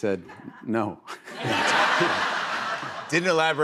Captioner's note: laughter